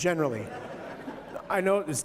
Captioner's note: laughter